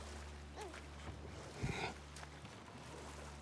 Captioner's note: grunt